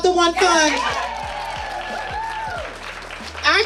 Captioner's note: audience cheering